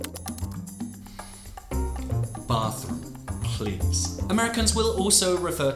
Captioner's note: sighs